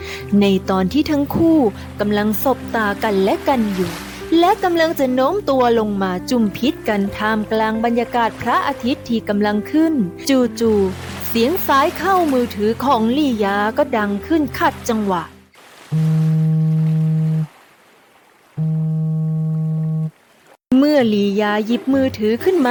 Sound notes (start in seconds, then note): 15.9 SOUND of Phone